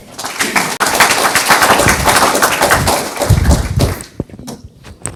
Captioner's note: audience applauds